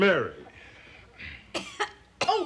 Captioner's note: coughs